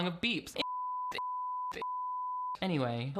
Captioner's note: beep